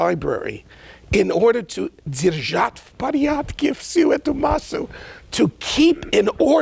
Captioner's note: speaking in a foreign language